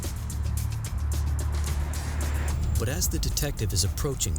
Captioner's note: vehicle humming